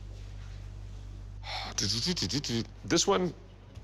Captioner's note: sighs, humming quizzically